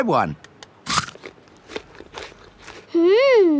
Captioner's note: crunches